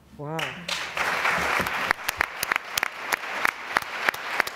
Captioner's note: applause